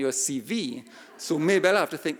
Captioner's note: audience laughing